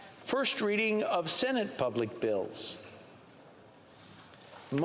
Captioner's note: speaking French